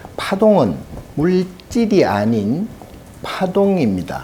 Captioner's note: speaking Korean